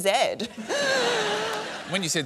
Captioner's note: laughter